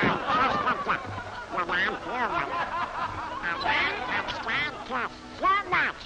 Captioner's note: the crowd erupts with more laughter; Donald mumbles to himself as the audience laughs